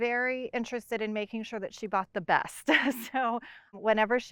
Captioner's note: laughs